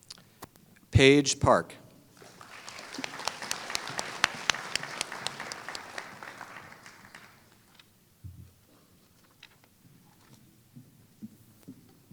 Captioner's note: applause